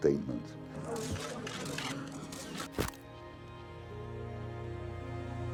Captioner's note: camera shutters click